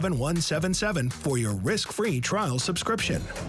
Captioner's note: burps and sighs